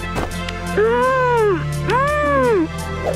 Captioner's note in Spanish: murmura